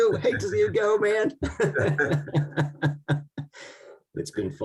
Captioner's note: both laughing